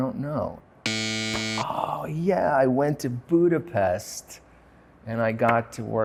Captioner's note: buzzer buzzing